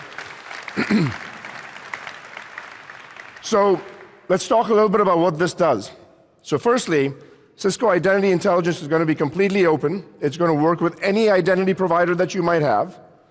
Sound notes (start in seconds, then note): 2.5 applause